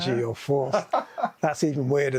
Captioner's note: guy laughs